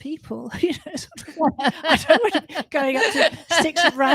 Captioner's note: laughter